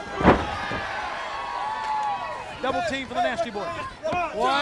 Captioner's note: crowd chatter